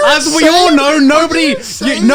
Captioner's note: shrieking